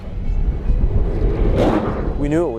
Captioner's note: Solar Car Drives